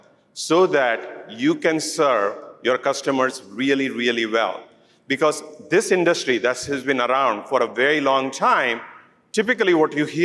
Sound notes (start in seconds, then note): none